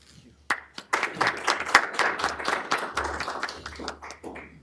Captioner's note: applause